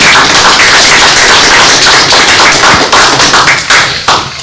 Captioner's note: applause